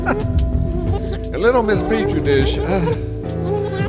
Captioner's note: sigh